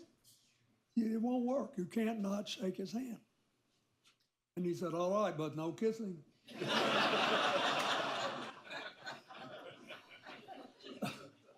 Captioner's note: laughter